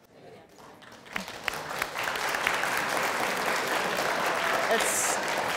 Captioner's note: audience applauds